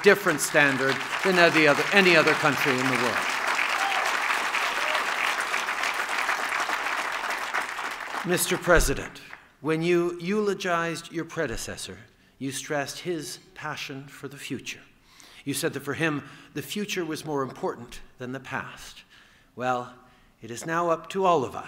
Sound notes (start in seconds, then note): 4.0 applause & cheers